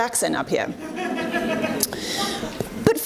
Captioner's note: audience laughs